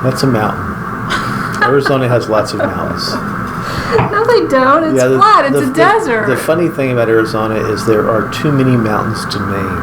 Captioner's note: laughing